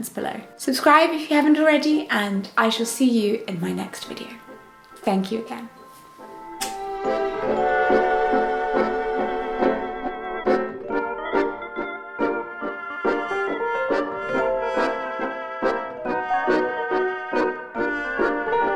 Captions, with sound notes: subscribe if you haven't already and I shall see you in my next video thank you again [blows kiss] [outro music]